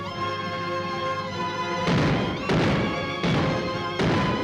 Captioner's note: guns firing